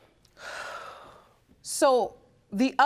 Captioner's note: sighs deeply